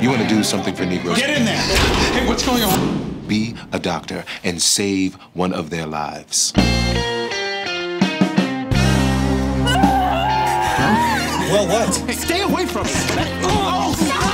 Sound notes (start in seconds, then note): 8.4 dramatic music; 9.6 screaming